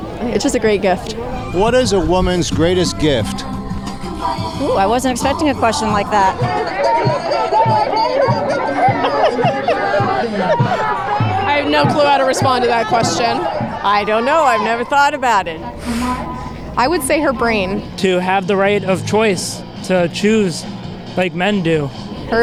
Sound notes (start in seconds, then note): 15.7 phew